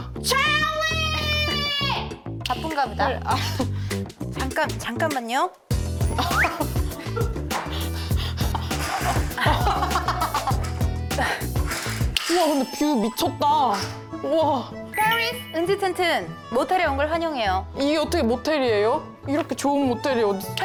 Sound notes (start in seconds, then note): 8.8 sound of curtains being opened manually